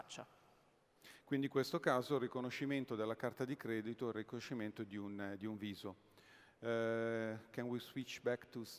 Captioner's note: speaking italian